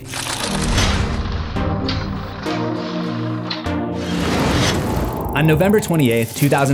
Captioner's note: impact